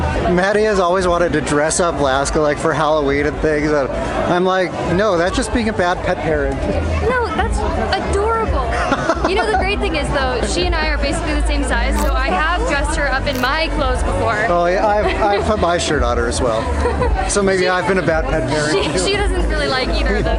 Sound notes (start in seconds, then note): 8.1 laughs